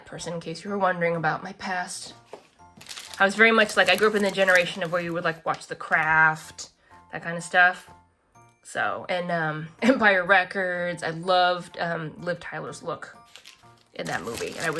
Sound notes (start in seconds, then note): none